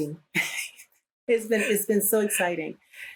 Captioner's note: laughter